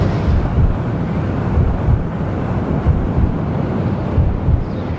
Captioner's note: heart beating